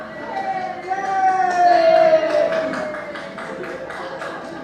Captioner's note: applause